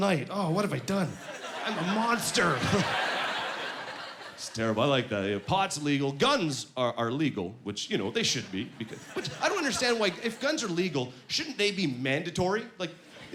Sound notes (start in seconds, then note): 2.8 laughing